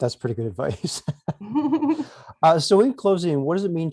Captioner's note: both chuckle